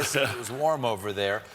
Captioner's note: laughter